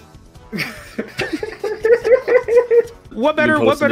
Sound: laughter

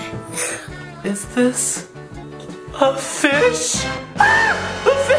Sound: screams

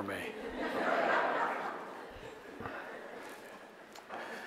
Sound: audience laughs

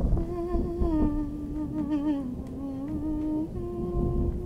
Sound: woman humming

